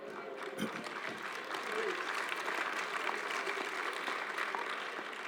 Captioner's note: applause